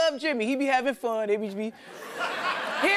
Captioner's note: laughter